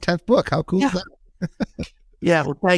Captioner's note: laughing